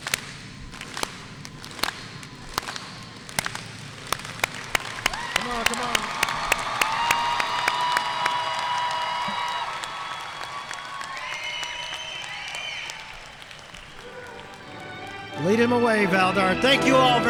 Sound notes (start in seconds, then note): 7.1 audience cheering and applauding